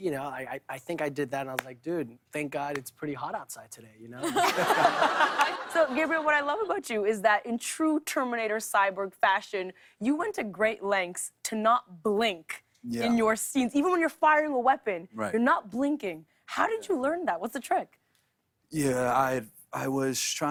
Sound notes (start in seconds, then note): 4.2 laughter